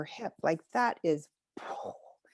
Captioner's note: exhales